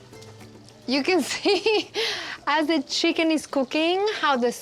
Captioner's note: laughing